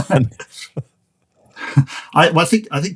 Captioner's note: both laughing